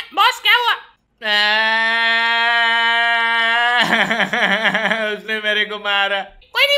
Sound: crying

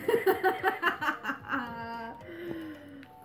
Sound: maniacal Laughter

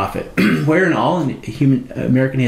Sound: clearing troat

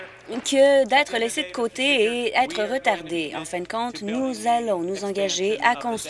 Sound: applause

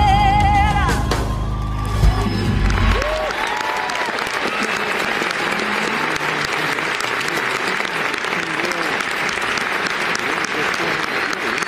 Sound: applause

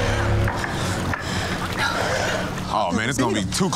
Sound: both gasping

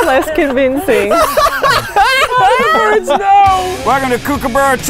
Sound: laughing

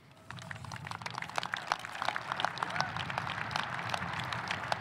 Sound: audience applauding

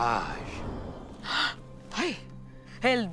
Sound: gasping

